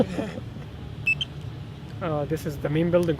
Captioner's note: laughter